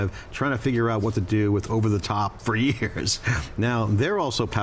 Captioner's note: laughs